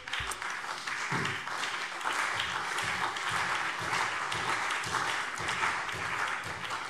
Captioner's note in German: Beifall CDU und BÜNDNIS 90/DIE GRÜNEN